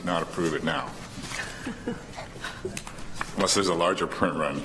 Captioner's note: laughter